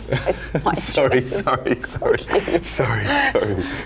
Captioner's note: laughing